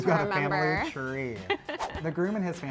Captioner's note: laughs